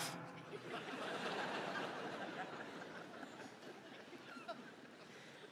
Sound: laughter

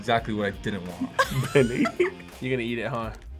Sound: laughs

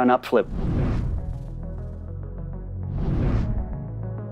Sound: air whoosing

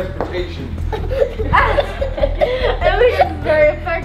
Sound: laughing

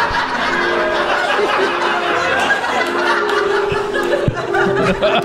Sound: giggling; laughter

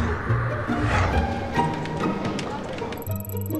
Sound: typing

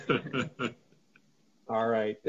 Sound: laughs

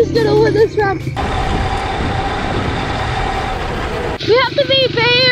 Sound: car roaring

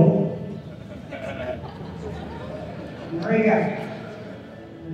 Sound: laughing

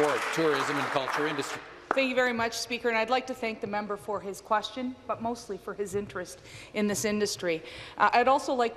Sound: some Applause

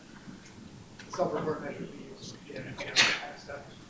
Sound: speaks faintly

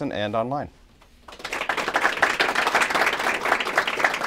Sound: applause

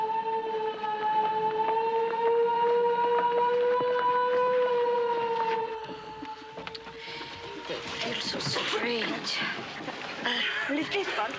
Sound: loud siren blasting

